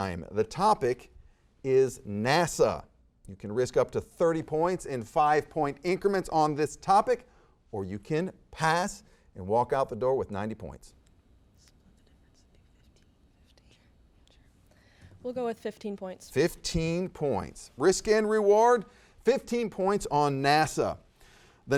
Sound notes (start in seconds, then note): 11.4 players whispering